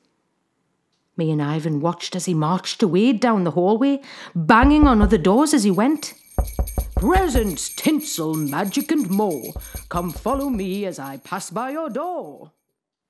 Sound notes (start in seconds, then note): 5.3 knocking. bells jingle; 6.3 knocking continues; 11.8 voice grows fainter